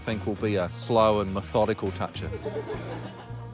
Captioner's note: laughter